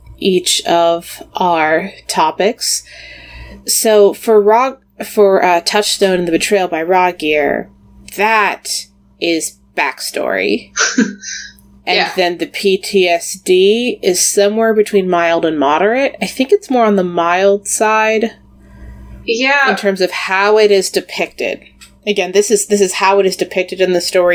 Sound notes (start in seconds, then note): 11.9 laughs